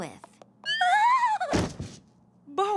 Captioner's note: whimpers